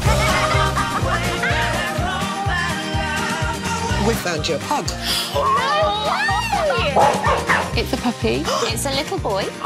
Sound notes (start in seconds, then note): 0.2 uplifting music plays; 5.4 cheering